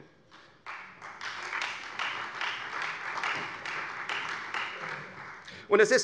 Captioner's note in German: Beifall Freie Demokraten